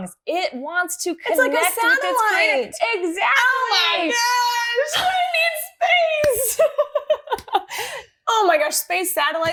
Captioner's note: laughter